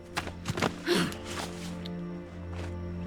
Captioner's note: sharp exhale